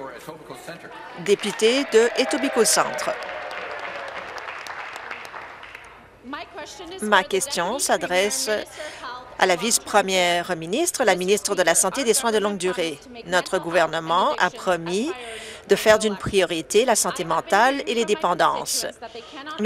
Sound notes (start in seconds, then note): 4.1 applause